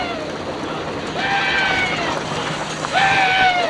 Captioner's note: men whistling; men shouting